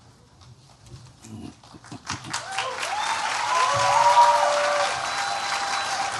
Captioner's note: cheering